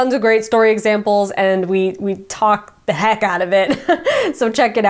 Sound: laughs

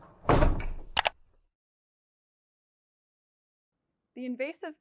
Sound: mouse click

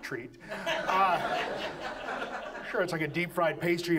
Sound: audience laughs

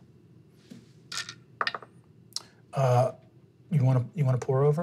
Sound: dice rolling

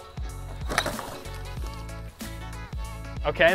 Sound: robot thuds

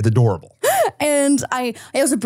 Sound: laughs

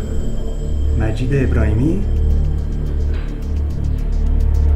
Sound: speaks in foreign language; dramatic orchestral music

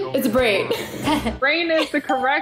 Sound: laughs

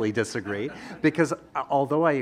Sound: audience laughing

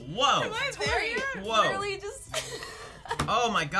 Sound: laughs

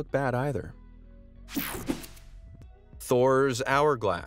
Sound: air whooshing

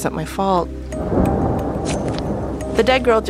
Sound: thunder rumbling

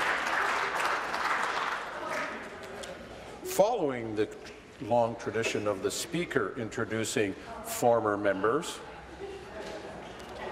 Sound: applause

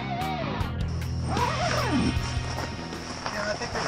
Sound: zipper

